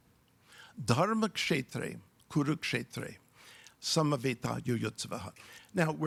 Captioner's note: speaks in foreign language